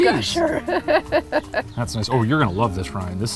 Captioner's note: laughs